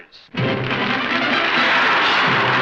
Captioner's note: applause